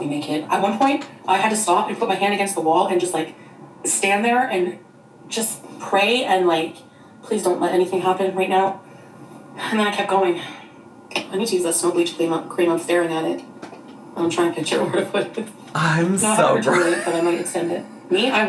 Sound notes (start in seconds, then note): 15.8 laughs